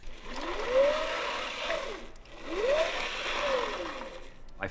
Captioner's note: whirring